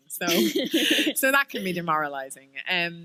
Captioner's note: chuckle